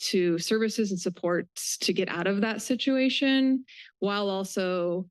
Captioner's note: none